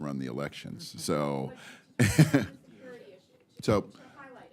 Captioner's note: laughs